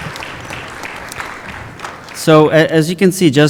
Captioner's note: applause